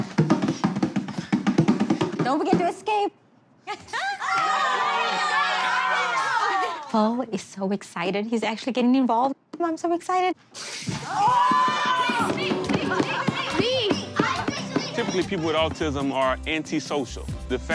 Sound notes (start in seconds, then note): 0.0 drum beat; 4.0 cheer; 11.1 cheer